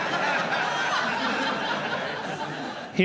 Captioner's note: laughter